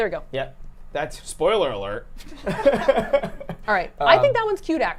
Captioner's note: laughing